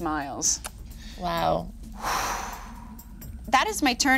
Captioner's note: Nox exhaling